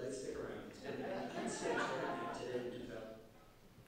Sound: audience laughing

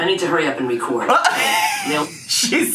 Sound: laughs

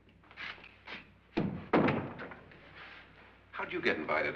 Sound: door closes

